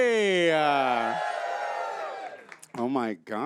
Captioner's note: audience cheers